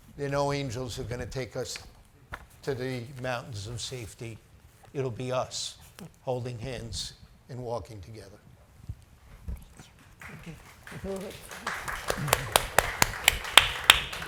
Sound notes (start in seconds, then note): 10.2 audience applauding